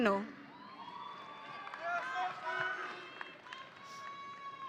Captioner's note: audience cheering